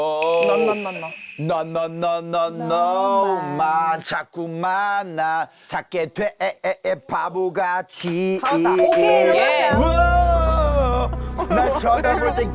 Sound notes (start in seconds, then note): 8.8 Sound of charging at PD